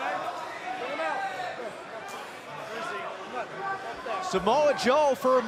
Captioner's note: crowd chatter